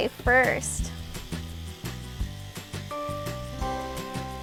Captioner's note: brushing